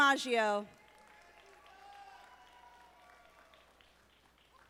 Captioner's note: audience applauding